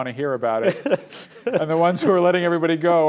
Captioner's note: laughs